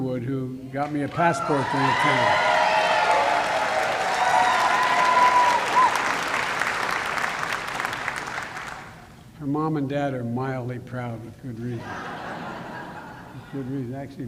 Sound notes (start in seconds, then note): 3.3 applause; 11.7 laughter